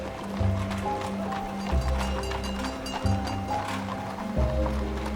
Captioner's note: horse trotting, trolley bells ringing